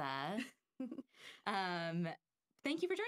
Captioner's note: laughing